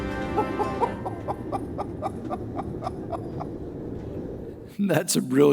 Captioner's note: small Laughter